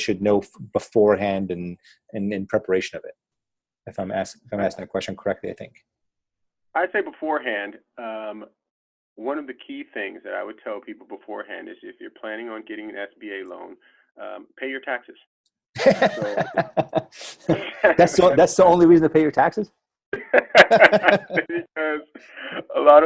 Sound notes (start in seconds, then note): 16.0 laughter